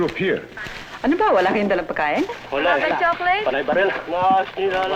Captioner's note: non-english speech